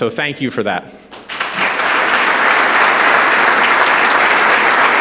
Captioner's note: audience applauds